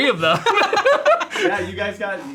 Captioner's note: everyone laughs